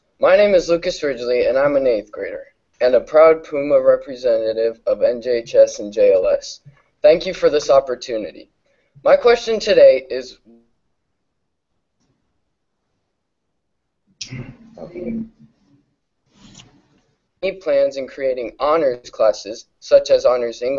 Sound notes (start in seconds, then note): 11.0 audio cuts out